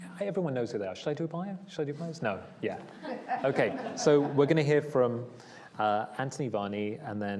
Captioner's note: laughs